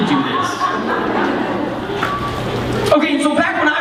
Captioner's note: laughter